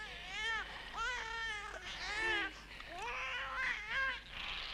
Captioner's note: none